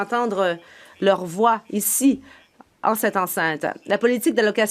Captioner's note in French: voix de l'interprète